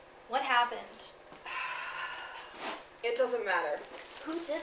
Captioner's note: sigh